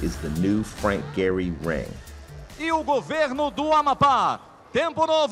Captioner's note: announcer speaking Portuguese